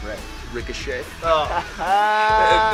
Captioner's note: laughter